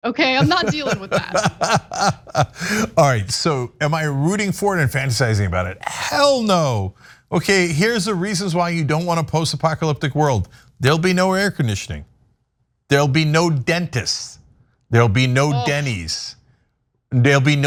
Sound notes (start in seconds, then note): 0.2 laugh